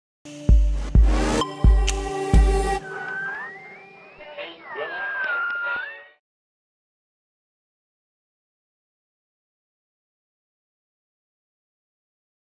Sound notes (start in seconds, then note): 0.2 light electronic music; 2.7 radio tuning